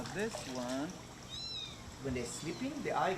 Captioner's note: kitten mews